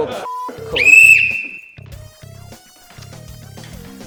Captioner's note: blows whistle